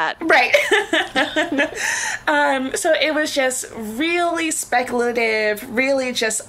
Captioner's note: laughs